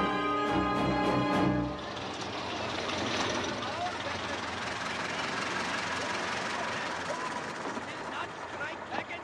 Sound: fast-paced instrumental music; car engines

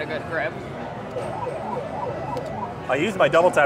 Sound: machine bleeps

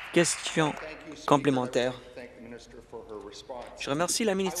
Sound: applause

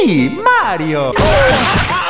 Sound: punch sound

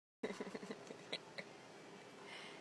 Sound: devilish giggling

